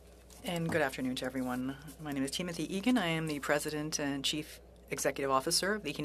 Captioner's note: speaking French